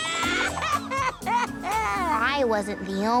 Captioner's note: crying